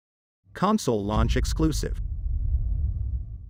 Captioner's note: dramatic sound